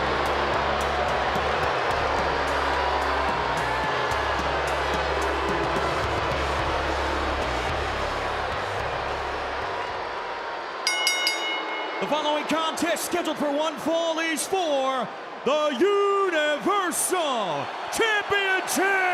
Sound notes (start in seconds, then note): 10.8 bell rings